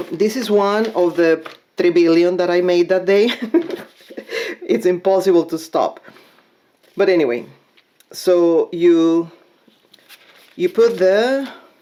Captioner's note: chuckles